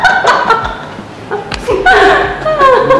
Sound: laughters

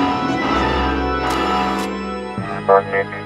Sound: click

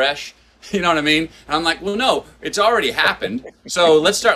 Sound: Sadhguru laughs

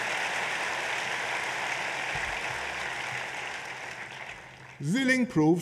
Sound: applause

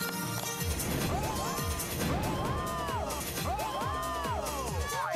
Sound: spraying fire

